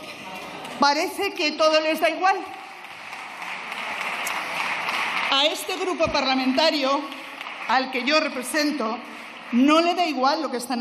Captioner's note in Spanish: Aplausos